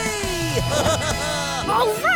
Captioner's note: laughing